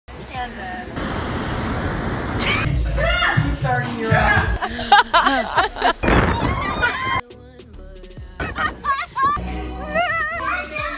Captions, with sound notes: - Candid. (waves crashing on the beach) - Yeah! (joyful laughter) (water spraying) (light music) (hearty laughter)